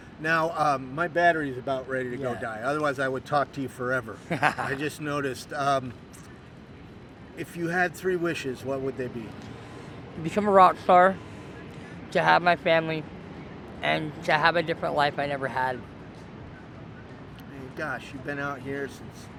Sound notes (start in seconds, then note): 4.2 chuckle